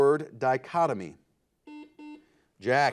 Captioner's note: buzzer beeping